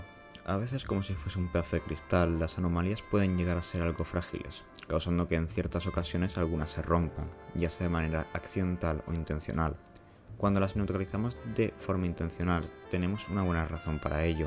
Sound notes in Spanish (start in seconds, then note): none